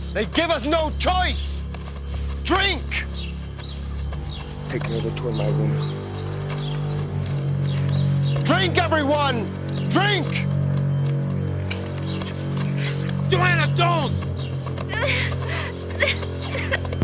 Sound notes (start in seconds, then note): 14.8 Joanna whimpering